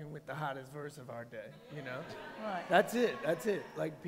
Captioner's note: cheers